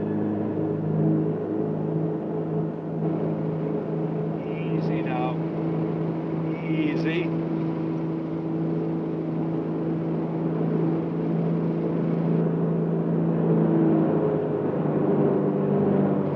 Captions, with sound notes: (plane running) - Easy now, easy.